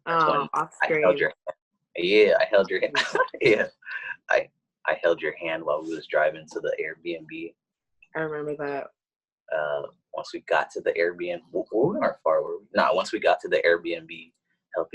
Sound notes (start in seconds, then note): 2.0 laughs